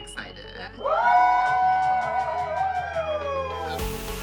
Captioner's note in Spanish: público ovacionando